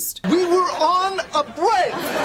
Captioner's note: yelling